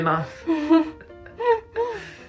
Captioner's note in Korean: 웃음